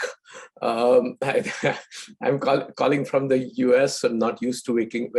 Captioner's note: laughs